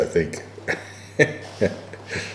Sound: laughter

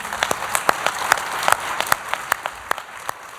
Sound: applause

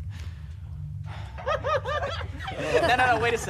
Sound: laughing

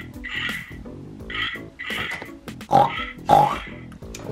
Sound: pig oinks

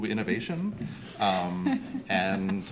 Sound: laughter

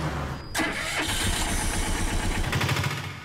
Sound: engine starts

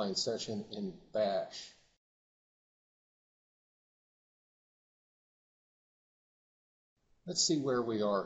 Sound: silence

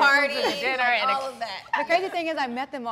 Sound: laughs

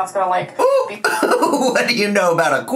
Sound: laughs

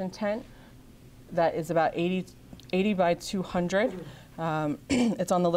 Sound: clears throat

